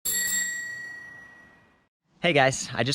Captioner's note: bell chimes